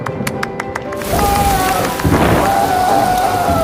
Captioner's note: fireman screams